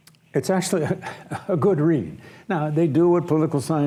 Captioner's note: laughs